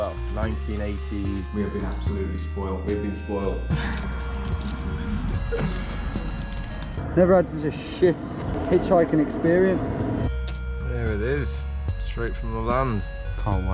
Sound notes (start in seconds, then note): 3.7 laughing